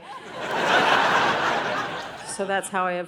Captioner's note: audience laughing